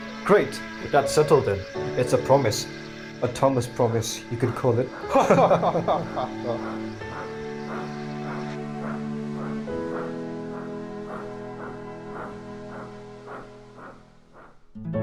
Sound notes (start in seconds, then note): 5.1 Thomas & Gordon laugh